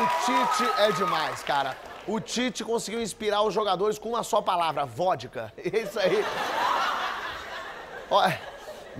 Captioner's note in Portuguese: aplausos